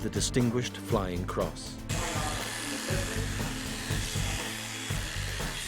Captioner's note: buzzing